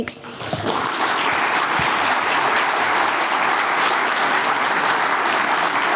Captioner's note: audience applauds